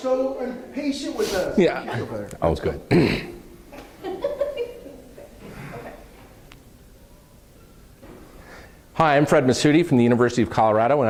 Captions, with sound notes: They are so impatient with us. - [Voiceover] (laughing) OK. - Hi, I'm Fred Masoudi from the University of Colorado,